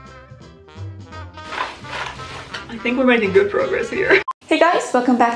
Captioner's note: shake shake